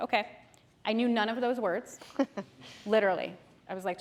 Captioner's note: chuckles